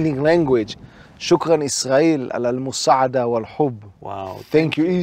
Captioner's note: syrian Language